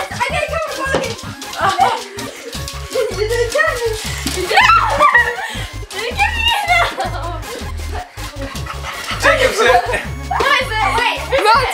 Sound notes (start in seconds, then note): 0.0 squeals; 4.4 kids squealing